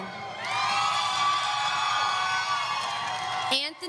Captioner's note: audience cheering